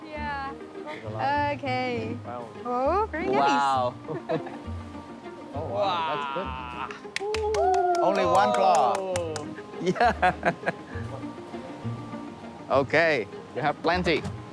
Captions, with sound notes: - Yeah. Okay. Oh, very nice. - Wow. - Oh, wow. - That's good. (all clapping) - Only one claw. Yeah. Okay, you have plenty.